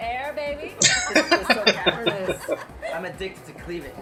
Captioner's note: laughing